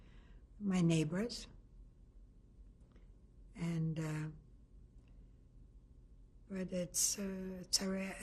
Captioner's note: pauses for 3 seconds